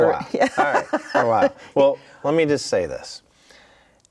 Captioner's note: laughing